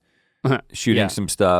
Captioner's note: chuckles